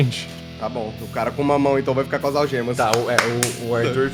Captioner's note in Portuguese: palmas